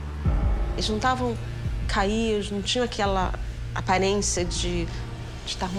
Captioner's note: speaks in foreign language